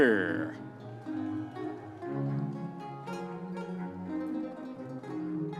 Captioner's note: audience members cheering